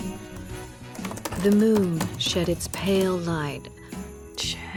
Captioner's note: typing